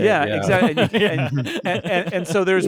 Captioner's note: laughing